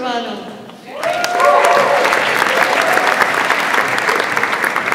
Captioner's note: audience applauds